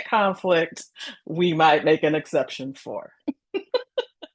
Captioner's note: laughs